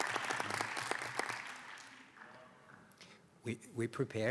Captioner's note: applause